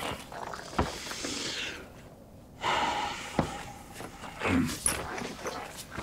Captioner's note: hand pats; sighs; footsteps thudding